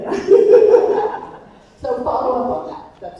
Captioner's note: attendee laughing